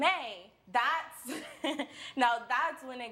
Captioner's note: chuckles